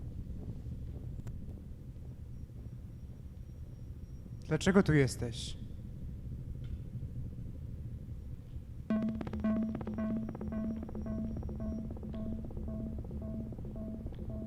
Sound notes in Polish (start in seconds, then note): 8.9 Wysokie, krótkie, miarowe, elektroniczne stuknięcia